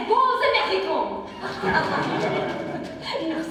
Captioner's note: ensemble chuckles